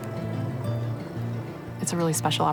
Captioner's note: gentle wind